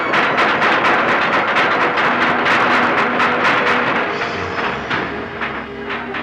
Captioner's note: hammering